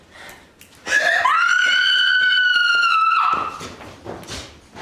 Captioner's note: scream